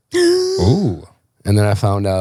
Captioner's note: gasps